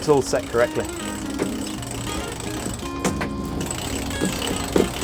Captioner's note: winch turning